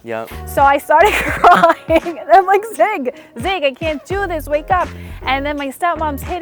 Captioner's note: laughing